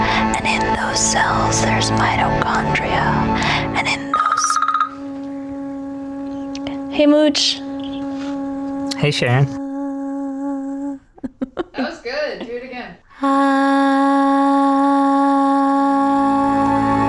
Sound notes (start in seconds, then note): 4.1 phone ringing; 11.0 laughing; 13.1 woman harmonizing; 16.9 soft music